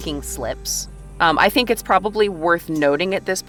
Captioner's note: none